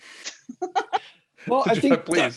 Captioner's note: laughter